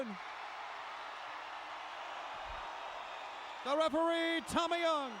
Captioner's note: crowd cheering